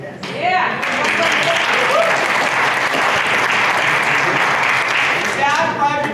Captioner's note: applause